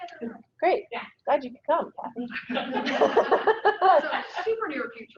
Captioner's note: laughs